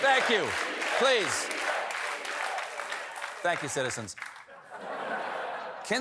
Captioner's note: audience chanting stephen